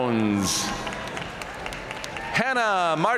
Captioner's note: audience cheering and applauding